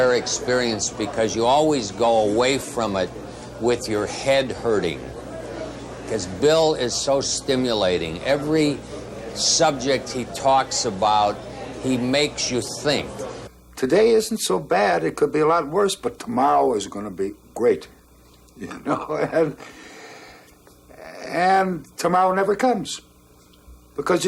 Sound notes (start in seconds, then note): 18.6 laughing